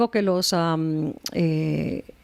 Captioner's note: Hablando ingl\s